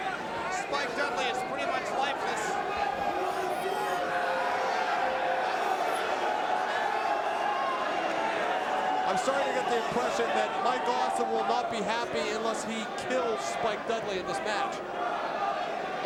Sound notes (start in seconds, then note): 2.9 crowd vocalizing